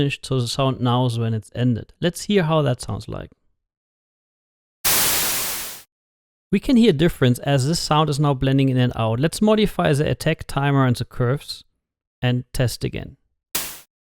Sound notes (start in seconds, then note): 4.8 harsh static with fade on tail end; 13.5 two softer bursts of static